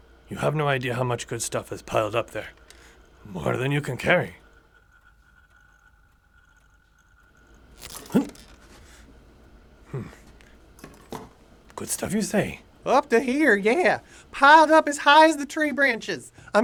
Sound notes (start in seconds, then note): 7.4 zapping; 7.7 grunts